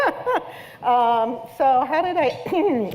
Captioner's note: laughter